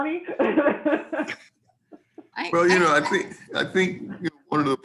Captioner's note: laughing